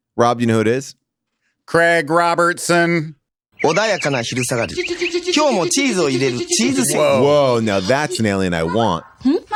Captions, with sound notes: Rob, you know who it is? - Craig Robertson. (Narrator speaks foreign language) - Whoa, now that's an alien I want.